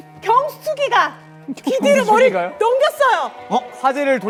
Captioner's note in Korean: none